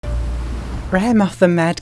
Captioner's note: waves crashing